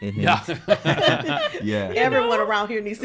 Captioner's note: group laughing